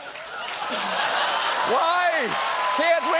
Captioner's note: cheers and applause